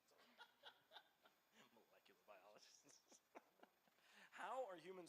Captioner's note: laughs